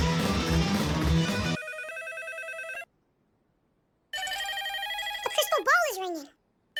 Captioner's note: phone ringing; more phone ringing from an object that is clearly not a phone